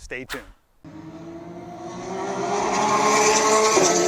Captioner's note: air whooshing